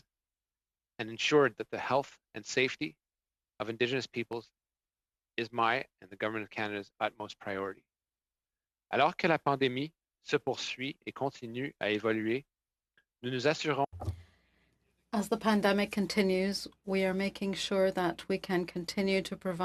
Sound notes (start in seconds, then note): 14.5 speaking FRENCH